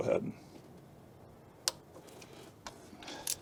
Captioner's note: click